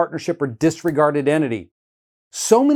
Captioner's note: hands clapping